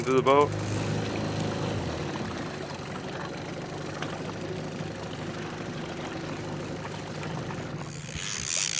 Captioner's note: boat engine idling; reel cranking